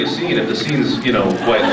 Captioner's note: laughs; scattered laughs